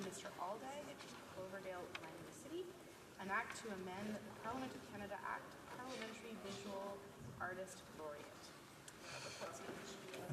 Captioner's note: off mic